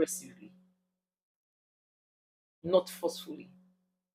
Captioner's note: paause